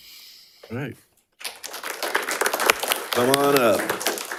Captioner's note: attendees applauding